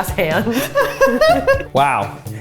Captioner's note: laughing